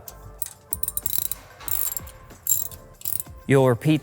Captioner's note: ratchet clicking